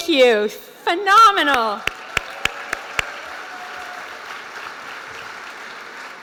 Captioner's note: applause